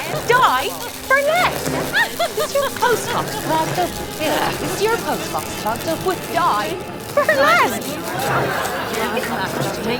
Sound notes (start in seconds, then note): 4.6 crackling, words are layered; 8.2 laughter